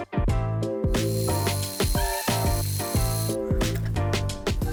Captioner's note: tool whirs